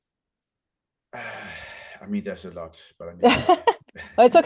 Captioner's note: laughs